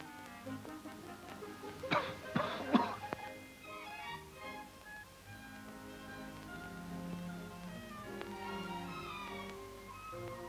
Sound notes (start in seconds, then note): 1.9 Stan coughing; 3.9 gentle music